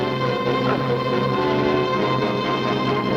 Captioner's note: moans